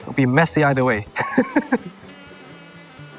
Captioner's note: laughs